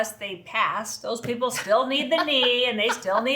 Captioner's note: laughter